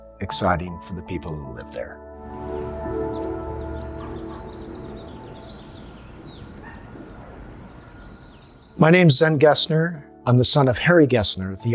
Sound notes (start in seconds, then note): 2.2 birds chirping